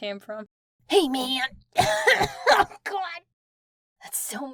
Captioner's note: coughs horribly